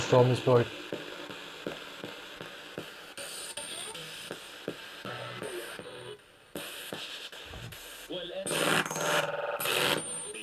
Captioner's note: sound of the Spirit Box in the background